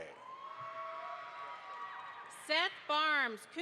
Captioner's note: audience applauds